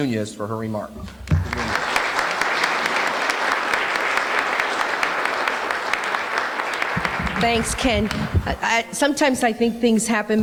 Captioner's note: applause